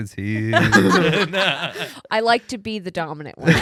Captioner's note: laughing